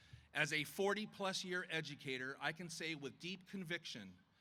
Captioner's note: none